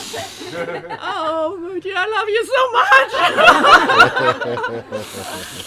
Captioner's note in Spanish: Risas